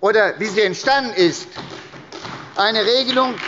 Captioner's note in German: Beifall bei der SPD